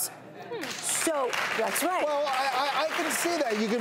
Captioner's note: audience claps